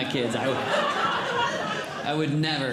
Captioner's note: audience Laughing